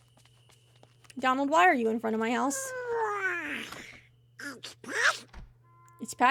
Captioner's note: Donald Yawns